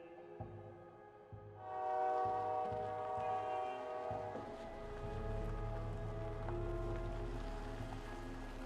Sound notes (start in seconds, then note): 1.6 train horn wailing; 5.0 pensive music